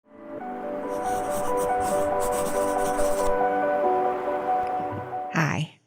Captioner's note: soft music; pencil scribbling